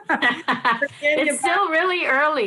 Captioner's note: laughs